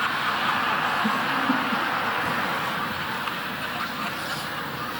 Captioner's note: audience laughing